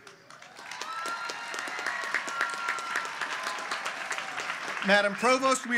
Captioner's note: applause